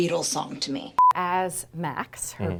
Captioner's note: electronic beep